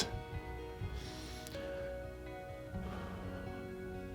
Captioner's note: inhaling; exhaling